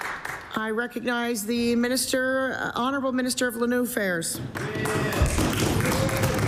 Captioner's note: applause